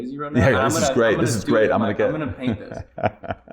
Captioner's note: chuckles